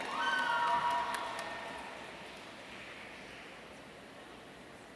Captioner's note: audience cheering